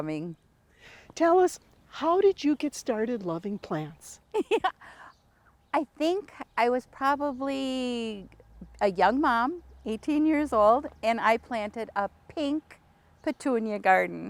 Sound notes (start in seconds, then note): 4.3 laughs